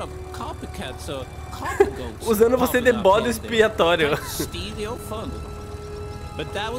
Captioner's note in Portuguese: risos; risos